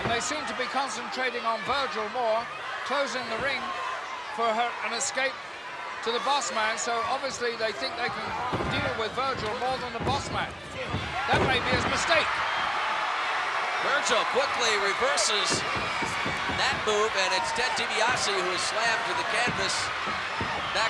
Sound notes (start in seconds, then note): 12.6 crowd cheering